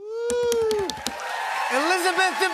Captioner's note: cheers and applause